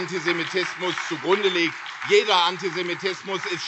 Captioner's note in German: Beifall CDU, SPD, BÜNDNIS 90/DIE GRÜNEN und Freie Demokraten